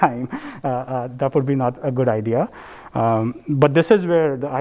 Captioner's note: laugh